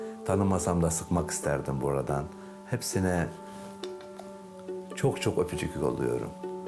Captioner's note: continues speaking in foreign language; pensive music